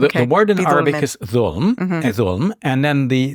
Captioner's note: speaking in foreign language